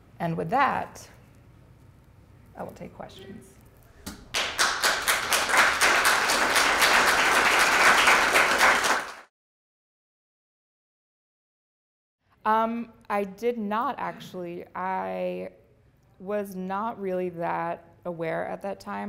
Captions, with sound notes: And with that, I will take questions. (applause) I did not actually. I was not really that aware at that time of that work.